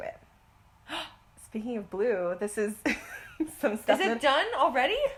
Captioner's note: gasp